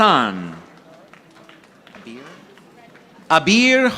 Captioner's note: audience applauding